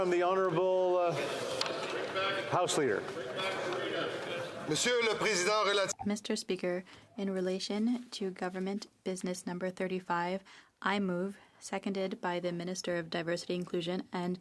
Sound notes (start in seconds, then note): 11.6 speaking French